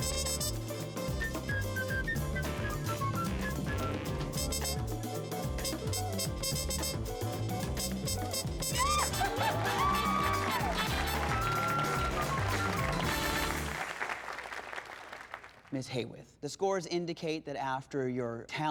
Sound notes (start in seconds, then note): 8.7 crowd cheering; 8.8 laughing